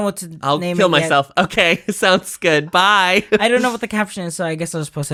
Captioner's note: laughs